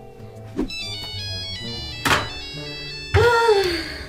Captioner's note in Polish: dźwięk telefonu